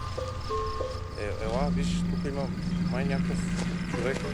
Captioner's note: men speaking foreign language